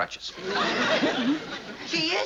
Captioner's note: laughs